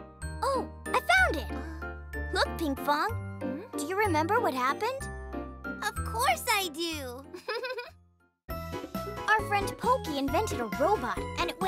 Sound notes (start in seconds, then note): 7.3 chuckles